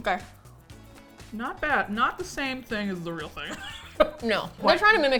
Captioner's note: laughs